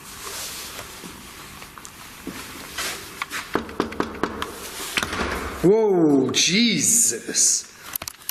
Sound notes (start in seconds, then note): 3.4 slamming door; 3.5 knocking on door